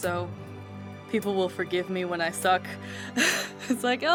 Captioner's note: laughs